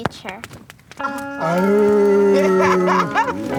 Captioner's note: laughter